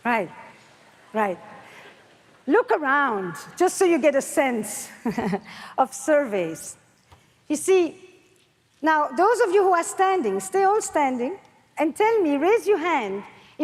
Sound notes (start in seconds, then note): 5.7 laughs